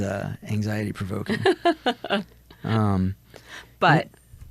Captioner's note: laughs